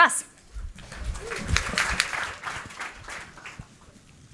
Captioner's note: applause